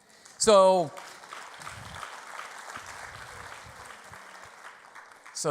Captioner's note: audience applause